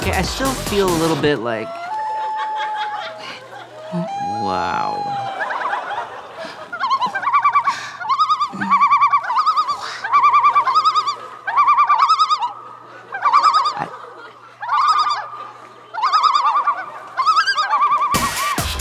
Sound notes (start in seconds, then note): 0.0 electronic dance music continues; 1.9 loon call; 6.5 loon call continues; 15.9 loon call continues; 18.1 electronic dance music continues